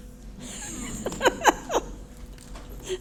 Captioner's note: laughs